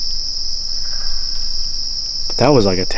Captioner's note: bird calling